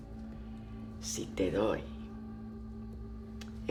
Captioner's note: Spanish